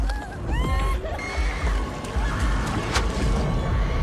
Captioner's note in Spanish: Ronnie grita